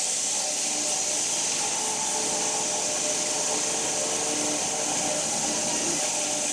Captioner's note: woodcutting machine hissing continues